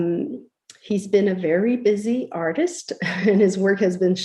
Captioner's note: laughs